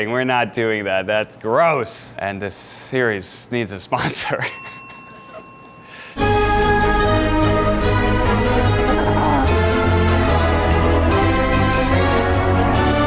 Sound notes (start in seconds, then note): 4.5 bell dings; 6.1 triumphant instrumental music